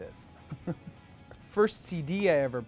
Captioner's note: laughing